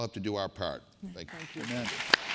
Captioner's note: applause